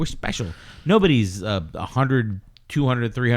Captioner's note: uh